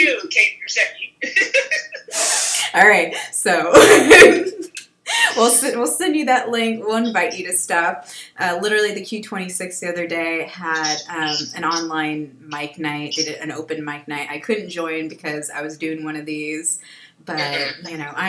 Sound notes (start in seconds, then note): 0.7 laughs; 3.8 laughs